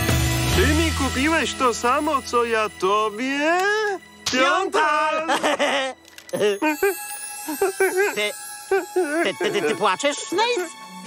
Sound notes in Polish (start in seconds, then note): 4.6 śmieje się; 6.1 szlocha